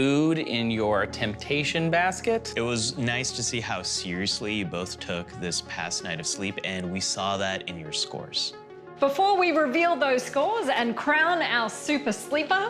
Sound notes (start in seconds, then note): none